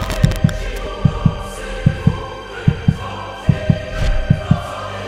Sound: tense music playing; tense music continues; heart beating

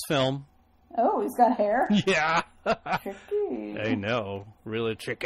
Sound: DJ laughs

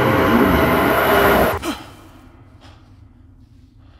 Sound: gasp; breathing slows

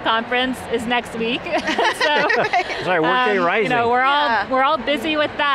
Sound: laughs

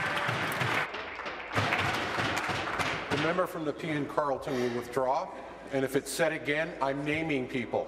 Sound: applause

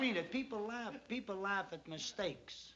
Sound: none

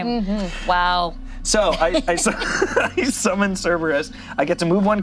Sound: laughs

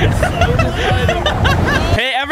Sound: all laughing

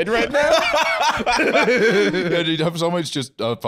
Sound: both laughing

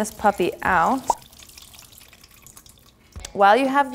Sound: liquid dribbling

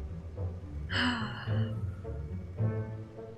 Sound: sigh

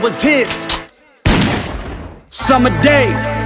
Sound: gun shot

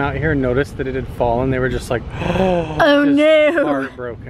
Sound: gasping

